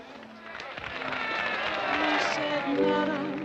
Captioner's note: applause; piano plays